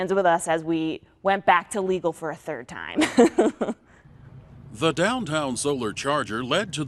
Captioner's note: laughter